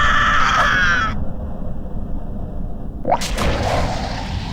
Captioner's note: screaming; leg whooshes; object splats